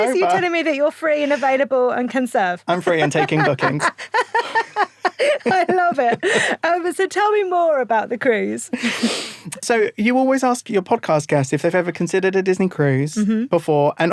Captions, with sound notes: - Is this you telling me that you are free and available and can serve? - I'm free and taking bookings. (both laugh) - I love it. So tell me more about the cruise. - So you always ask your podcast guests if they've ever considered a Disney cruise before.